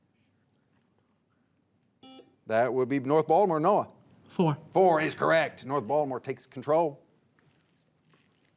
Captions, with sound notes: (buzzer beeps) That would be North Baltimore, Noah. - Four. - Four is correct. North Baltimore takes control.